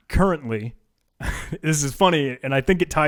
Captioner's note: laughs